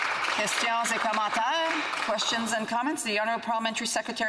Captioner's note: applause